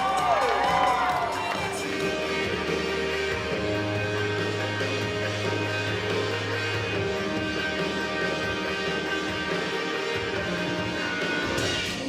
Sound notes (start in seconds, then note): 2.4 crowd cheering; 5.9 light rock music